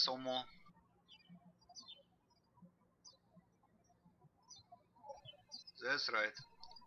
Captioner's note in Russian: птички щебечут